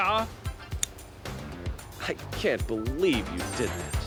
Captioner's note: snips